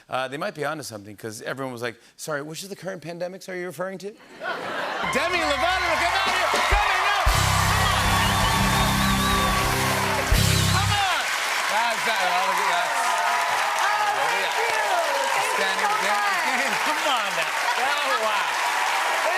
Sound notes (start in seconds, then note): 4.2 laughter; 8.2 cheers and applause